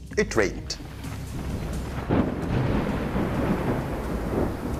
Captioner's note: thunder rumbles